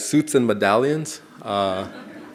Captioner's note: audience laughing